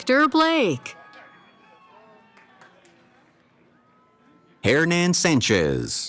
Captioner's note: cheering